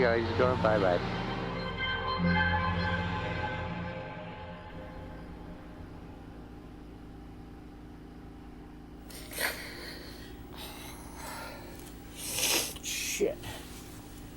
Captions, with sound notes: he's going bye-bye. (ventilator humming) (sobbing) Shit.